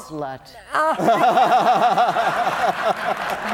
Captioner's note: laughter